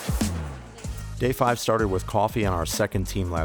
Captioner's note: voiceover